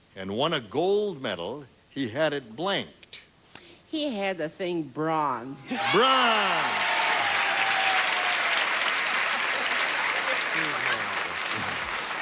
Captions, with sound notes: AND WON A GOLD MEDAL, HE HAD IT BLANKED. HE HAD THE THING BRONZED. BRONZED. [APPLAUSE]